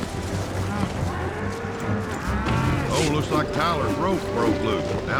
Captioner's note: suspense music; bull mooing